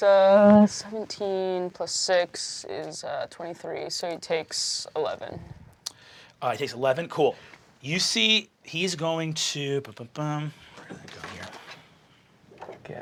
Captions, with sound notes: That's 17 plus six, is 23. So he takes 11. - He takes 11, cool. You see he's going to, (humming).